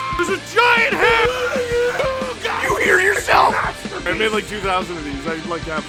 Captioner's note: Harry potter screaming; screaming